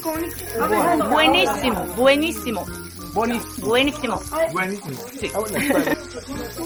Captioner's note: Spanish